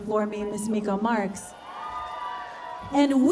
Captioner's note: cheers and applause